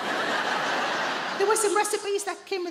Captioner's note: audience laughing